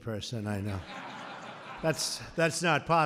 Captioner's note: laughter